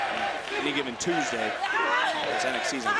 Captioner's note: crowd chants "nxt"